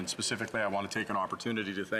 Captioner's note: speaking French